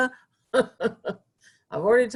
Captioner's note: chuckling